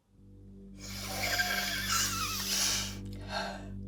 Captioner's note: Betsy sniffs